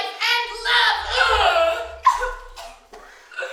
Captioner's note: grunting, choking